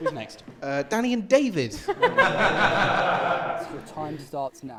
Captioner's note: laughter